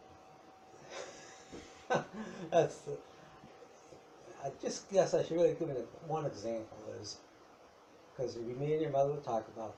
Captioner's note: laughs